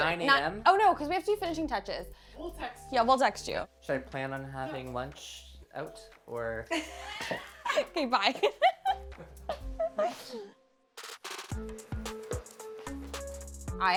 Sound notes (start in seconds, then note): 8.4 group laughing; 11.0 upbeat music